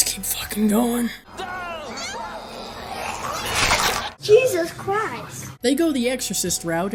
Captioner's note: neck snapping and twisting